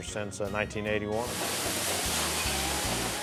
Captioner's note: sizzling